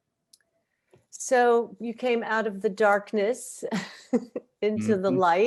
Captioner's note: chuckles